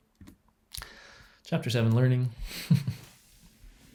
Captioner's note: chuckles